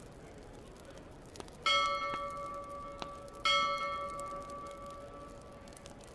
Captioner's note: bell ringing